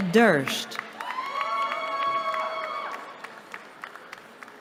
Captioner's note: cheering